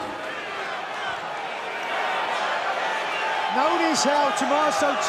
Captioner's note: crowd cheering